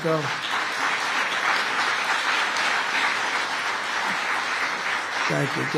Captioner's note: applause